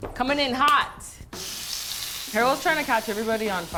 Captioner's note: pan sizzles